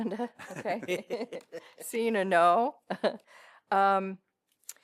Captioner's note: laughter